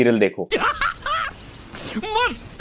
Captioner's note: laughing